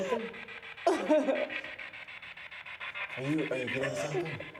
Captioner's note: Isabel crying